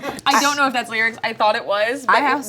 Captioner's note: audience laughing